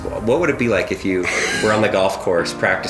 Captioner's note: wheezes